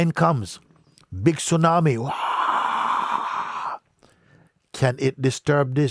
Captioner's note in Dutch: imiteert geluid van tsunami